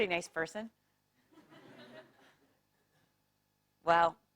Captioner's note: laugh